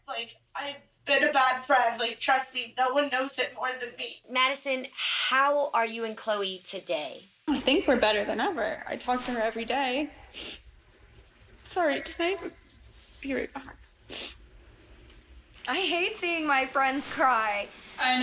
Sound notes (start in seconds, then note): 11.8 voice breaking; 14.1 sniffing nose